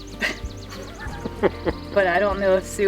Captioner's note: laughter